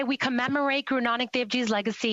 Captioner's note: speaking Alternate Language